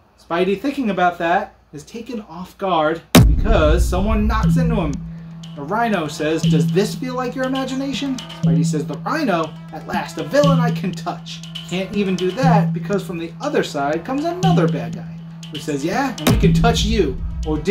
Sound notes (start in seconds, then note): 3.1 boom